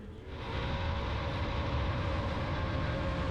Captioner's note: truck engine revving